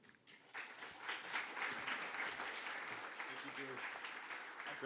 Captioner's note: audience clapping